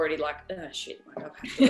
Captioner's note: laughing